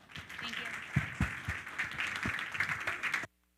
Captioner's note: all applaud